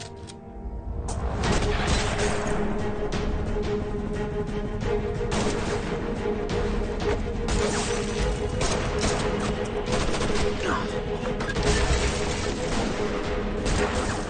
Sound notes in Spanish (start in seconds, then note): 1.3 Disparos